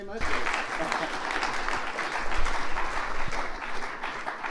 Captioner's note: applause